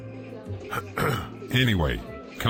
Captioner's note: clearing throat